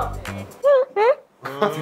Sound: giggle

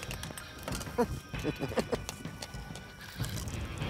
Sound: laughing

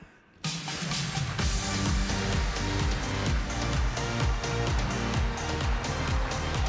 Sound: energetic music; audience applauding

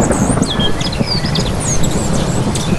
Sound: thunder

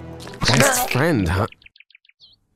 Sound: death neck snap sounds

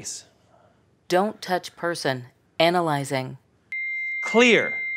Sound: AED tone

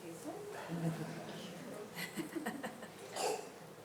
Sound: faintly speaking

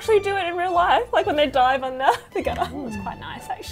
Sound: chuckles

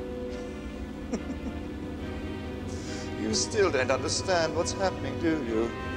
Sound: chuckling

